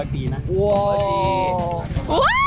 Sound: laughing

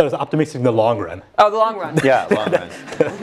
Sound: laugh

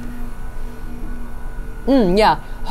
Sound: machine whirring continues

